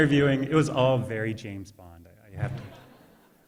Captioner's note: audience laughter